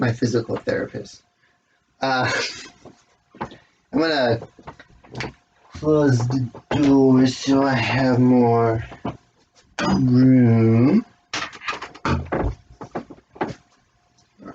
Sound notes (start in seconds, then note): 1.7 chuckles; 5.8 banging of medal against door followed by clicking of the door closing